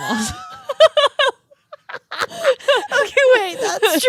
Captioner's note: girls laughing